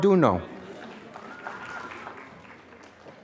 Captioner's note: applause